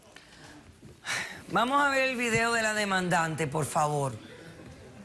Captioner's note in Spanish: exhala